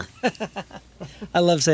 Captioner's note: laughing